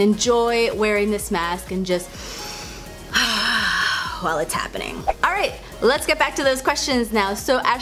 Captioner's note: deep inhale